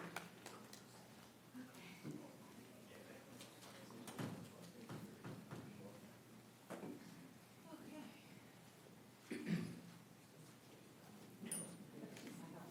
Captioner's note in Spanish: aplausos